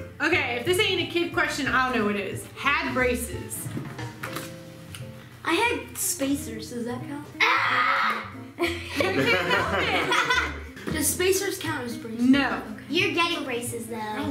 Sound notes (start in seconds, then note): 7.4 yelling; 10.2 laughing